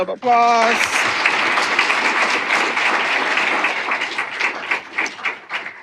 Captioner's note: applause